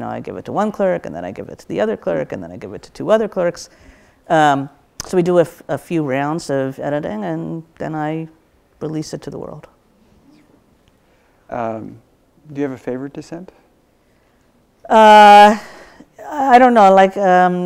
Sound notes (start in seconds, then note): none